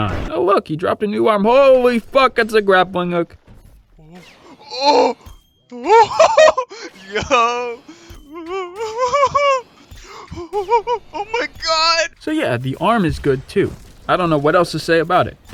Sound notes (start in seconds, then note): 6.0 euphoric hollering; 10.1 still hollering